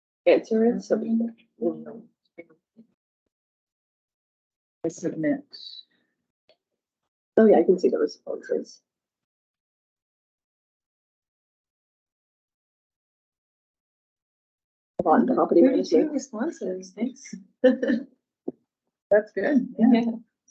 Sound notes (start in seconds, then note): 15.0 speaks faintly